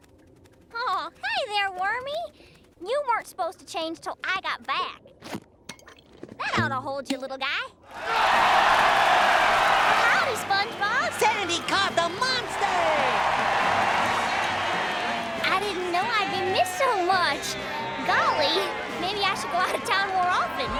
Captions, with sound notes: Aw, hi there, Wormy. You weren't supposed to change 'till I got back. That oughta hold ya, little guy. [cheering] Howdy, SpongeBob. Sandy caught the monster! [cheering] I didn't know I'd be missed so much. Golly, maybe I should go out of town more often.